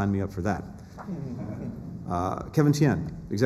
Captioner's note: laughter